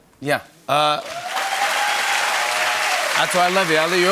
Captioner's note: cheers and applause